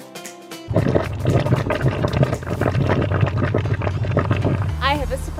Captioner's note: boiling sound